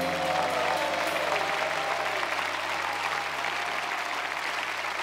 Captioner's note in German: Jubel, Applaus